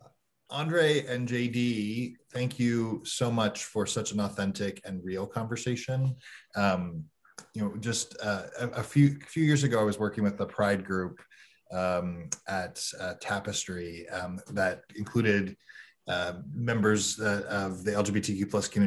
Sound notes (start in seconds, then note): none